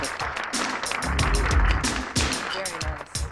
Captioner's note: applause